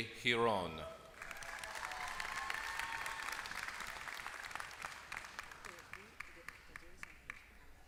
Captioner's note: applause